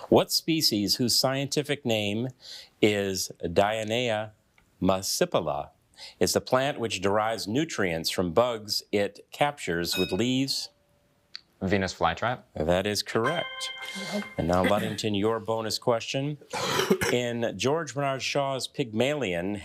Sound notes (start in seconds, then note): 9.9 bell dinging; 16.5 coughing